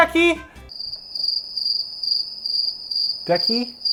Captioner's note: cricket sounds